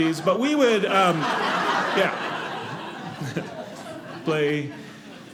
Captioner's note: audience laughing